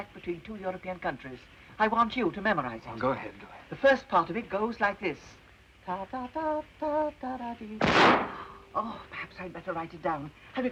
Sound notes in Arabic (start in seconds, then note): 5.9 تغني أغنية; 7.8 طلق ناري